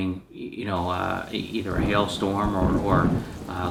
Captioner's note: thunder rumbling